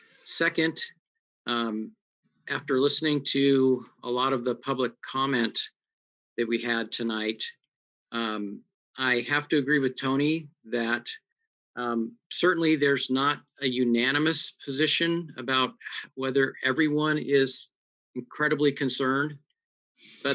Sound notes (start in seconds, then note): none